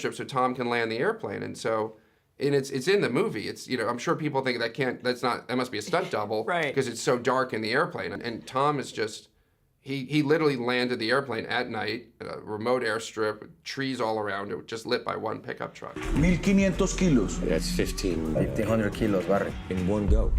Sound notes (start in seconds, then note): 14.9 man speaking in foreign language